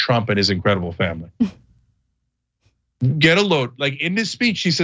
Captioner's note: laugh